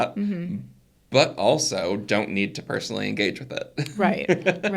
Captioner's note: laughs